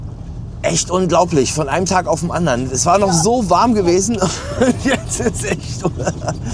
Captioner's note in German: gelächter